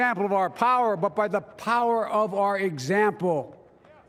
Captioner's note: applause